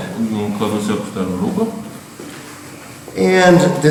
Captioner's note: speaking in a foreign language